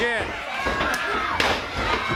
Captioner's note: crowd chatter